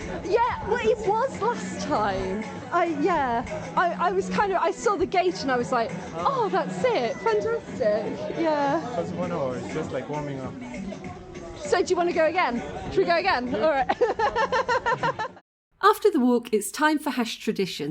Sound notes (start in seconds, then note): 13.4 laughing